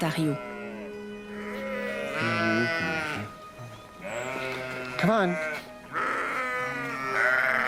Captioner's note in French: bêlements